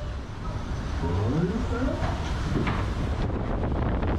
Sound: wind rustles

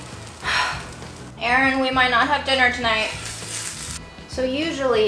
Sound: sighs

